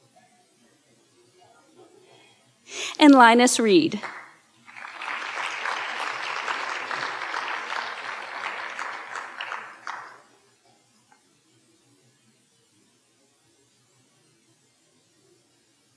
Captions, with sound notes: And Linus Reed. (audience applauding)